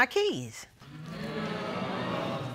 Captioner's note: audience gasps